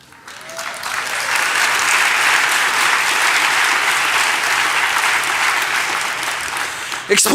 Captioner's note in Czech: Potlesk